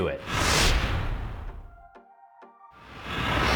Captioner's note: whooshing noise